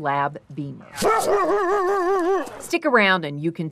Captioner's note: Beamer barking